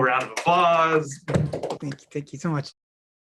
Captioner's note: all clapping